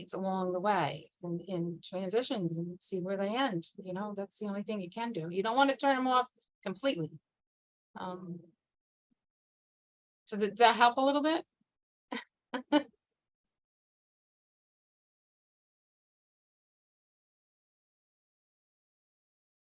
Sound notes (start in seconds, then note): 12.5 chuckling